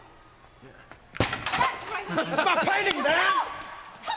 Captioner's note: board clattering